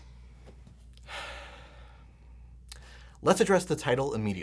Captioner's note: sighs